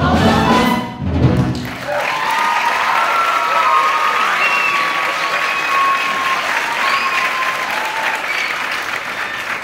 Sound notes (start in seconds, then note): 1.5 applause